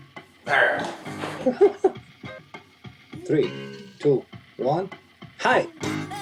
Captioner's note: chuckle